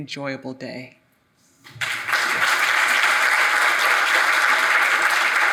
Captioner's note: audience applauding